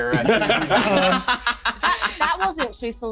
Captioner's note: laughs